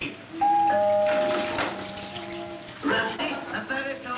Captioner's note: doorbell rings on television program